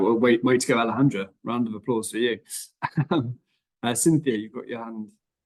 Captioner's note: chuckles